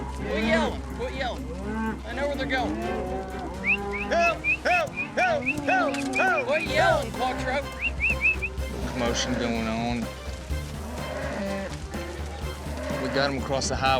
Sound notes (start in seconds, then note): 3.0 mooing; 3.5 yelling, whistling; 7.6 whistling; 10.7 mooing